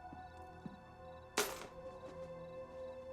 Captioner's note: keys clatter